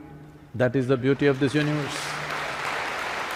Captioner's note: applause